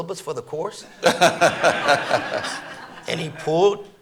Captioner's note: audience laughing